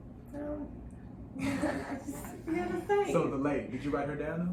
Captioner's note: laughs